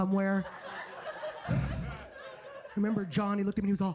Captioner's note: audience laughs